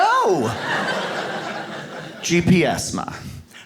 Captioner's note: audience laughs